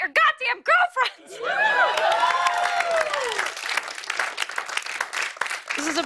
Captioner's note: cheers and applause